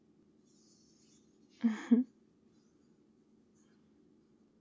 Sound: sleepy laugh

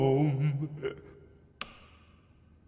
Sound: click

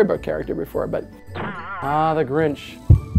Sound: boing!

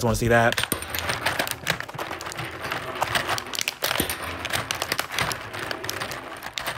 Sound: Beanz rattling; plastic scrunching

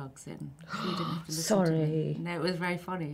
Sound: gasps

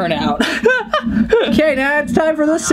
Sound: laughs

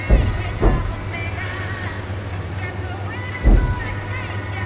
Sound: thumping in trunk

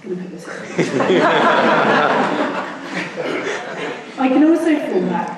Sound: laughing

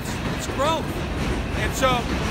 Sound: subway passing

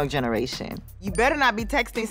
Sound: ding

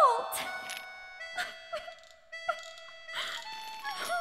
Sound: sweethart cries; guard approaches

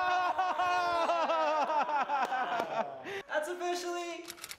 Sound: all cheering

